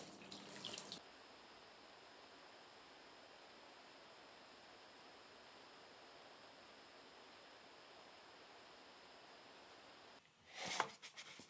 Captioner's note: computer fan; brushing